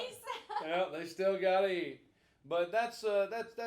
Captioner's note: laughing